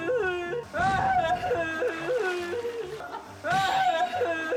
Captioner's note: crying